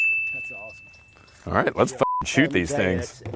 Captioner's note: bell ringing; beep